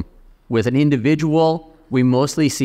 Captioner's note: none